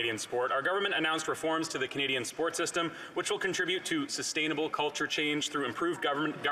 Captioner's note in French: voix de l'interprète